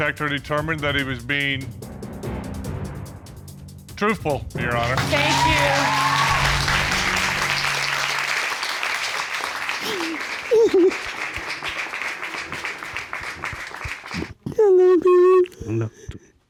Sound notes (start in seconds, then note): 7.4 audience applauding; 9.6 sobbing